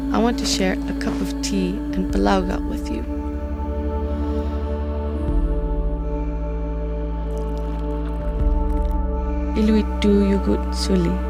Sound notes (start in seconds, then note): 7.4 grandchild speaking Inuktitut